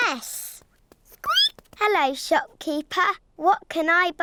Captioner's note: squeaks